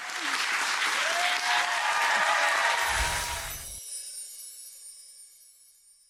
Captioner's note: audience clapping and cheering